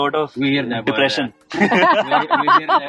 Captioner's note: giggles